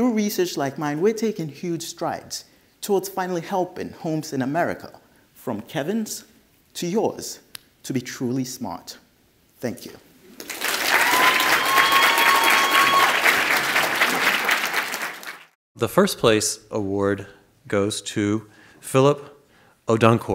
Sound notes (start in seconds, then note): 10.3 audience cheers and claps, exits stage